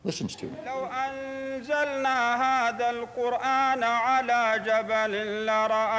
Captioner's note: praying in Arabic